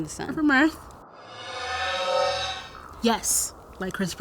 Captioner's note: mysterious whooshing